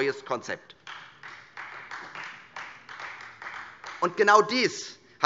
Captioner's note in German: Beifall Freie Demokraten